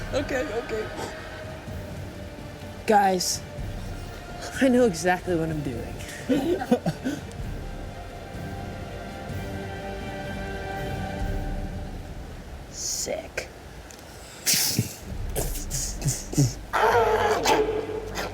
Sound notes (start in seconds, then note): 6.7 suspenseful music; 15.3 vocalizes; 16.7 octopus screams